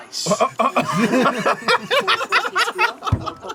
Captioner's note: laugher